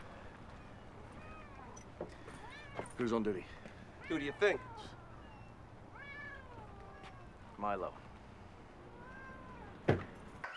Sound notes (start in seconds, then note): 0.2 cats meowing